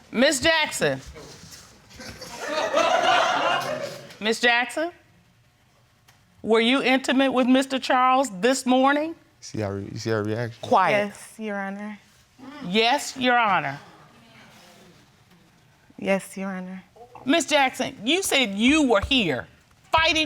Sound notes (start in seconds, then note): 2.0 audience laughing